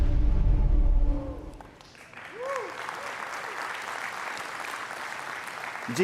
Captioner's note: applause